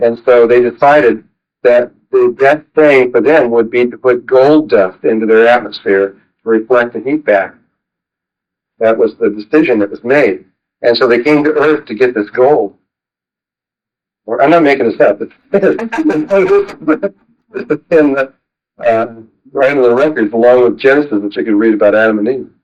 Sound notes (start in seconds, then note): 15.5 laughs